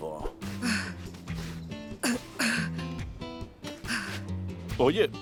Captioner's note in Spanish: Exhala cansada